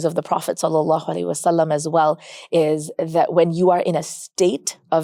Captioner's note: speaks Arabic